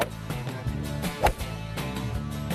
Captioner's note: golf swing